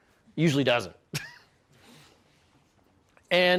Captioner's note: chuckles